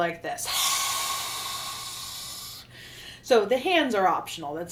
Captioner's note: loud exhale